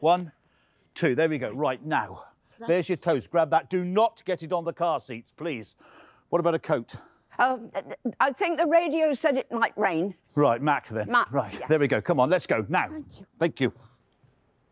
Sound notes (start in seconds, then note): none